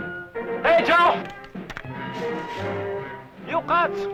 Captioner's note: non-english speech